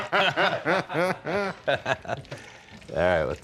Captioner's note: laughing